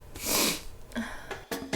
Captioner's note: sniffling; instrumental music